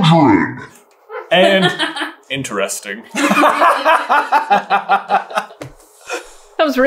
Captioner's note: laughing